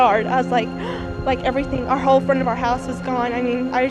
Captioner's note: gasps